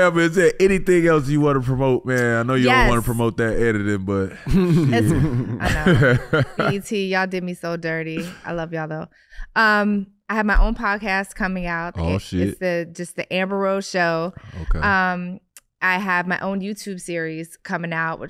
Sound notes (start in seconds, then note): 4.1 Iman laughing